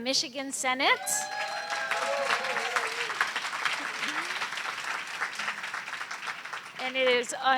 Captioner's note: applause, cheering